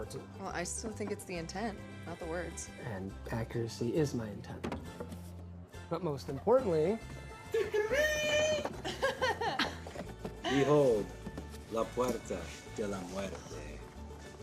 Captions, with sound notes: - Well, I still think it's the intent, not the words. - And accuracy is my intent. But most importantly... (Patrick imitates blowing trumpet) (Louis drums on table) (Sara laughs) - Behold. - La puerta de la muerte.